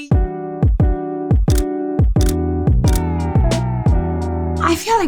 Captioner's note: laughing; camera clicking; gentle upbeat music